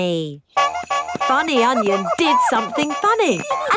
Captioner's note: shoes honking